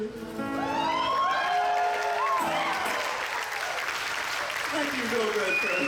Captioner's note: audience cheers; audience applauds